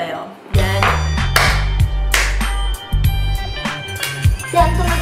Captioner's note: clapping